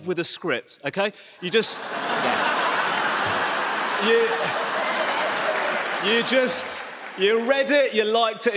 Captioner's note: audience laughs